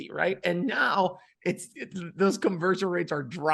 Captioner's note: laughing